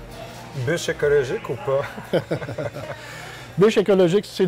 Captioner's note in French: rires